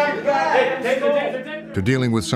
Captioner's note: exclaiming